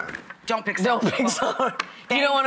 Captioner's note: laughs